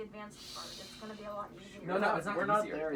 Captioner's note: shushing